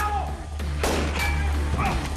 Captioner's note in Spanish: Disparos